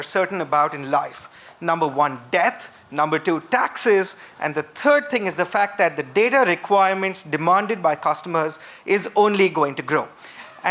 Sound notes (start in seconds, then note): none